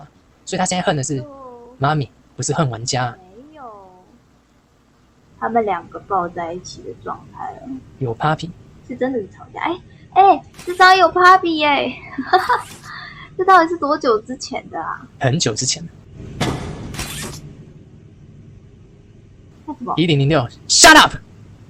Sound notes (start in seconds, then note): 16.3 1006 angry knock